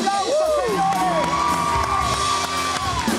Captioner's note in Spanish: Aplausos